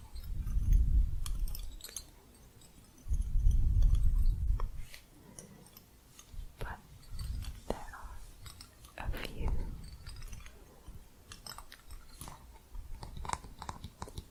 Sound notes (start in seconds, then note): 0.0 gentle jingling; 9.7 gentle jingling, then tapping